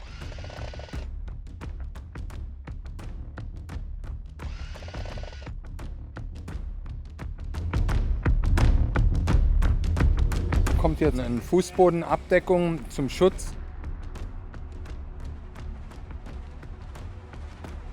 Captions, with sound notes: (German) A floor cover comes here for protection.